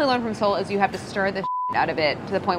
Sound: beeping

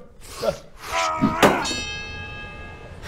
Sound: ding!

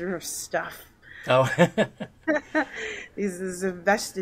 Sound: both laugh

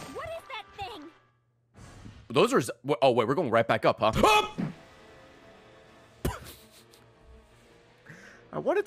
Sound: laughs; screams

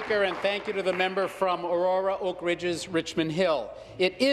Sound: applause

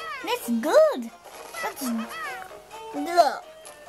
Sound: gameboy noise

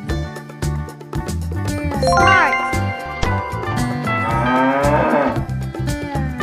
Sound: cow sound

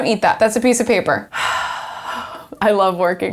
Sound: sighs

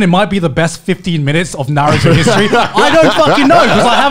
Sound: laughing loudly

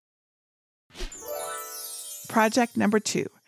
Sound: magical chiming

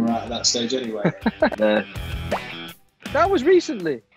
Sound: laughing

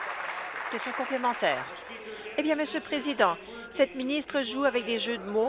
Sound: applause

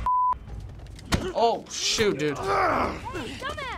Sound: Joel grunts; Joel growls

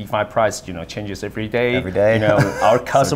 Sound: laughs

